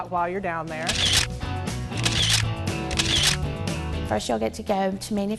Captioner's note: upbeat music; camera clicks